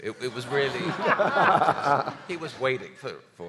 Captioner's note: audience laughing